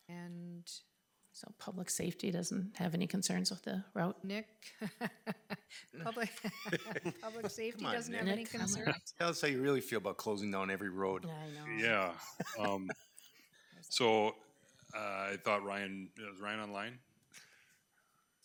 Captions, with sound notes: And? So public safety doesn't have any concerns with the route. Nick. (laughing) Public Safety doesn't have any concerns. Come on, tell us, how you really feel about closing down every road? I know. Yeah, so I thought Ryan, is Ryan online?